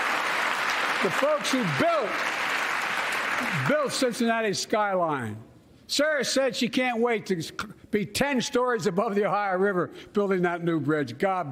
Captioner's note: cheers and applause